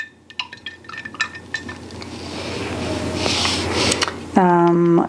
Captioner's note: brush whirring